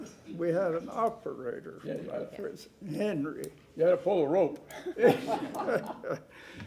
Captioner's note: laughter